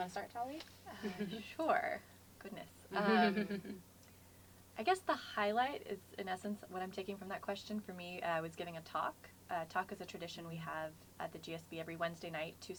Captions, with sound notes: We'll start with that, you want to start Talia? [LAUGH]. >> Sure, goodness! I guess the highlight, in essence what I'm taking from that question, for me I was getting a talk. Talk is a tradition we have at the GSB every Wednesday night.